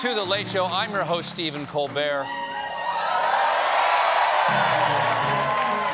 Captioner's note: cheers and applause